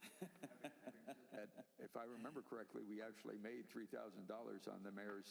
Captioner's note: laughter